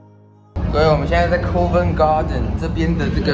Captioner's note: british accent